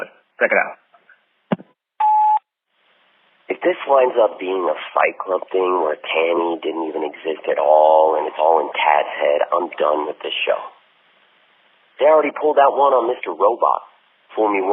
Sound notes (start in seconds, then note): 0.0 phone message; 2.0 sfx: beep, new message; 3.8 phone message